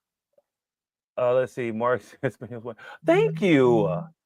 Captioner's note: chuckles